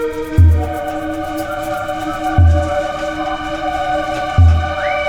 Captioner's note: whistling